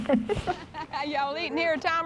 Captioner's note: laughs